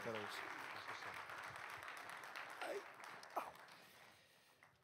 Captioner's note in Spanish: aplausos